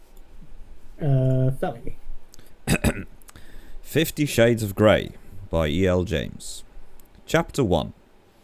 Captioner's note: clears throat